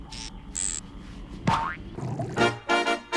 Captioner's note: boing!